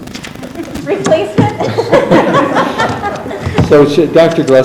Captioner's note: chuckles